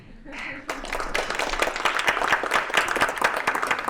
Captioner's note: applause